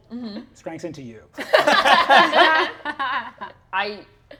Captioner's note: all laughing